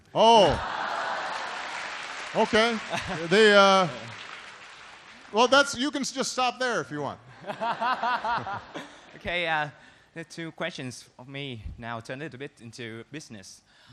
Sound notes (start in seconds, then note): 0.3 laughter and applause; 7.3 laughter